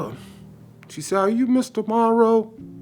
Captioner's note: hand smacking